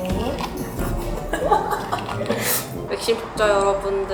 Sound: laughs

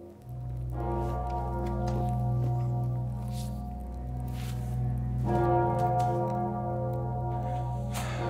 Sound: bells clanging

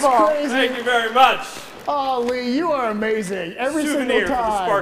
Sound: applause

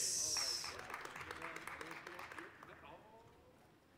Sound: applause

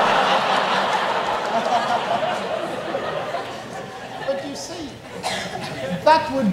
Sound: audience laughs

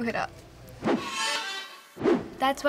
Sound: bow squeaks

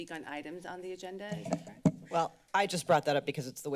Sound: mic noise

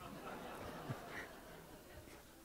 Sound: laughter

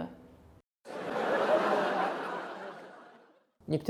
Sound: sit-com laugh

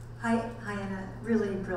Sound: voiceover

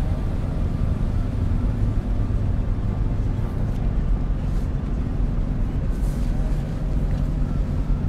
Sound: droning continues

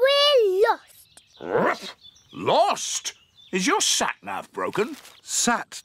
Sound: barks

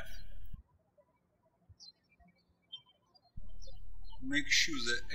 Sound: birds chirping

